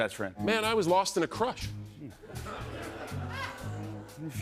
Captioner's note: laughter